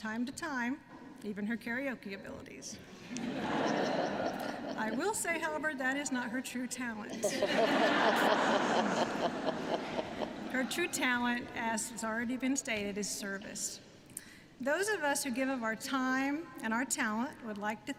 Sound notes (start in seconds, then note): 3.0 laughter; 7.1 laughter